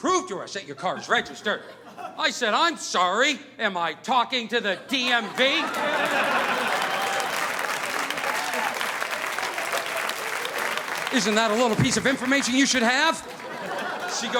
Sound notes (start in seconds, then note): 4.8 audience laughing; 5.6 audience applauding